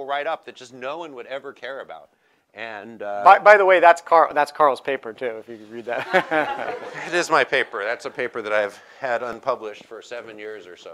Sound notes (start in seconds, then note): 5.9 laughter